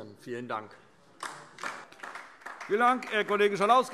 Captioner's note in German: Beifall DIE LINKE